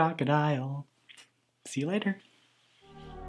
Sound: smooch; closing theme music

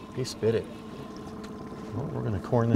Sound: reel cranking

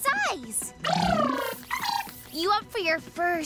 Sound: trilling

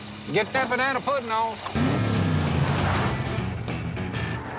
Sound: vehicle whooshing

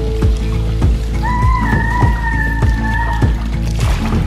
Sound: screaming

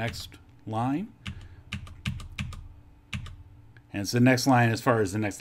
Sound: keyboard clicking

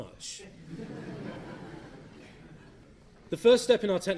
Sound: laughter

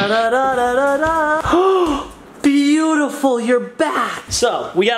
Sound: sings tune; gasps

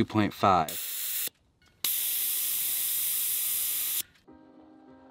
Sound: tire air hissing

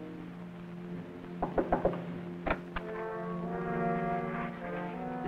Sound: loud knocking

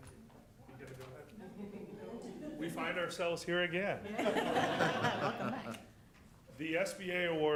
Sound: laughter

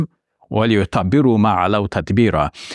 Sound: speaks in Arabic

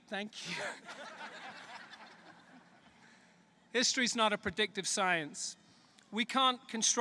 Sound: laughter

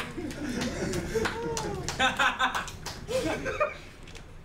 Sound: laughing

